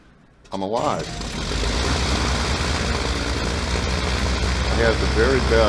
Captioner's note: plane engines hums